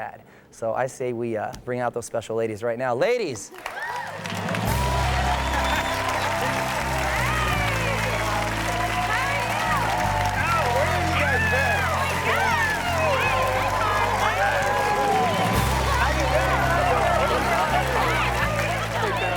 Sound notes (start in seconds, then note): 4.5 audience cheers and applauds; 7.7 orchestral music; 14.6 audience continues cheering and applauding